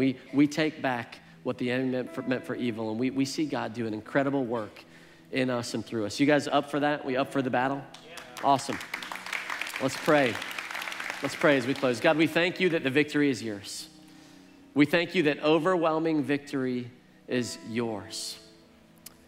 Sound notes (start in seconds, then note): 7.9 congregation applauds; 19.1 gentle piano music